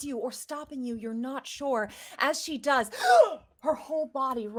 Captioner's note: gasps